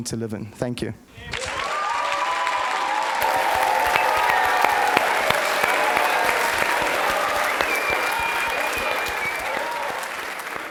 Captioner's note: applause